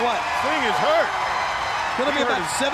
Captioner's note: crowd cheering